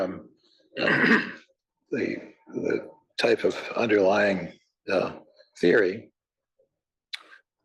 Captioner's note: cough